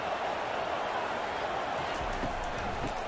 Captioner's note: crowd cheering